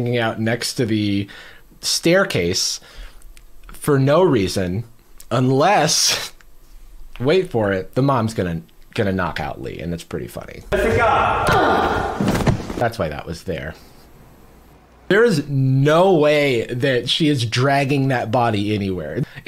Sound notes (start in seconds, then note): 11.1 Bunny grunts; 11.4 thud